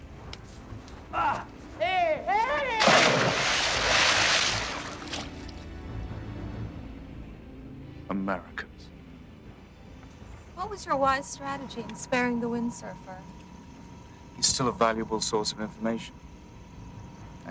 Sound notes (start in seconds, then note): 1.2 Cole groaning; 2.7 water splashing